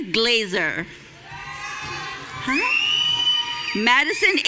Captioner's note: audience cheering